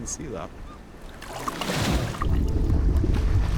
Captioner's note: water splashing; bubbles gurgling